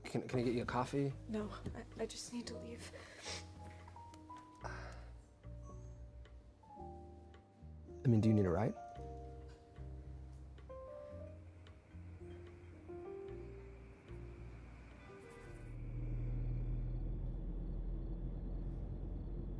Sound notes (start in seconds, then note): 15.0 car horn honks